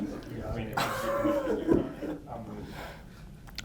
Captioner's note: laughs